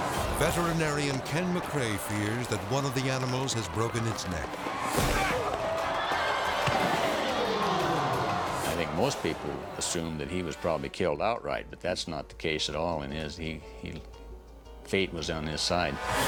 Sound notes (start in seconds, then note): 4.6 cowboys grunt; 4.6 horses thud; 6.2 cowboy thumps; 6.2 horse neighs